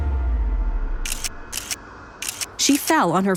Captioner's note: camera shutter clicking